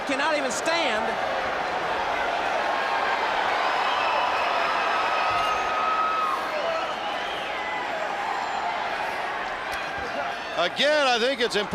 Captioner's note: crowd chatter